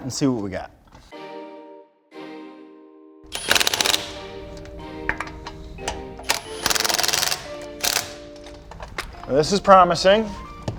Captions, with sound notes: and see what we got. (impact gun whirring) This is promising.